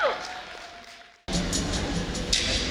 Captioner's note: audience applauding; upbeat music